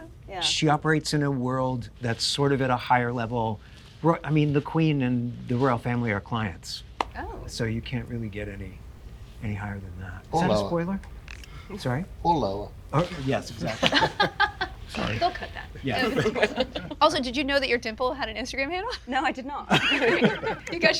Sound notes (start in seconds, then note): 13.6 laughs; 16.3 people laughing; 19.6 people laughing